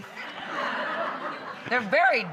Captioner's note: audience laughing